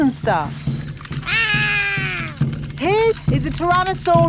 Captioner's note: roaring